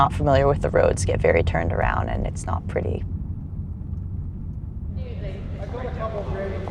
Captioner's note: none